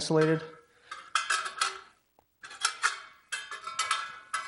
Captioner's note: metal sound